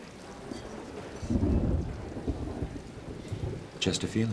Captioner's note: thunder rumbles